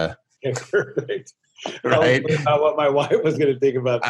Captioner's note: laughing